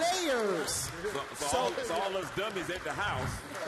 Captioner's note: applause